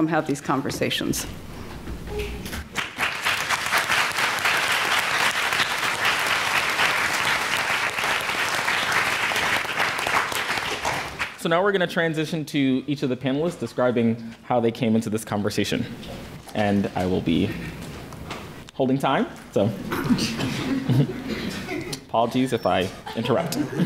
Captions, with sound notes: have these conversations. [APPLAUSE] So now we're going to transition to each of the panelists describing how they came into this conversation, and I will be holding time, so apologies if I interrupt.